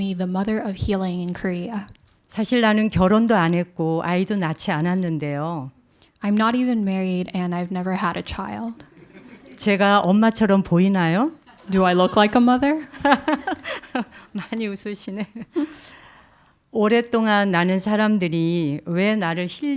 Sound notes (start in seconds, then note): 2.9 speaking in Korean; 8.8 audience laughs; 10.4 speaking in Korean; 12.8 laughs; 15.0 speaking in Korean